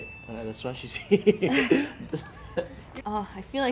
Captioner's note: laughs